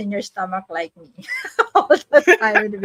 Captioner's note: laughs